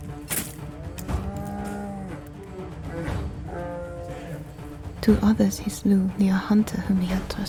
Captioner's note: bear screams